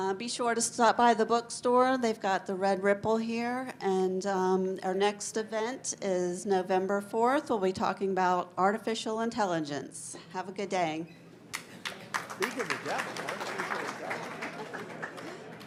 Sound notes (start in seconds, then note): 11.5 audience applauds; 15.4 audience chattering indistinctly